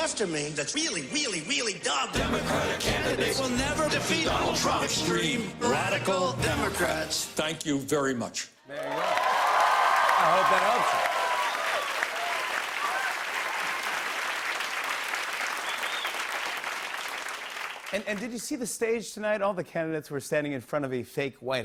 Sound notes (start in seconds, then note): 8.8 cheers and applause; 12.1 applause